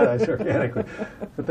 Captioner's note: laughter